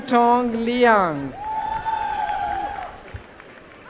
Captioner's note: applause